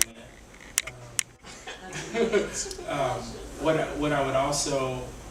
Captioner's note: laughs